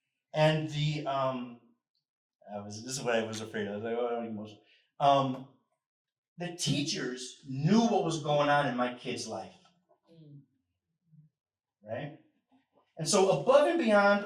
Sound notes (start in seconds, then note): none